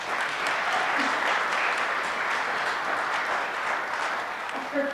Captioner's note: audience clapping